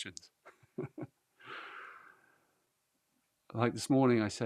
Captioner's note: laughs